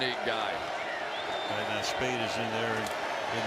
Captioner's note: crowd cheers